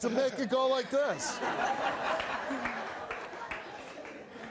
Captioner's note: laughs